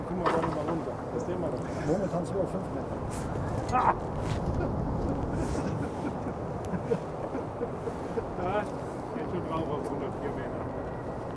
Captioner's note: laughter from passengers